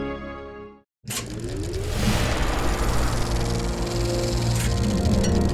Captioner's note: dramatic music; film projector clicking